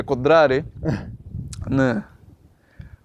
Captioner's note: haha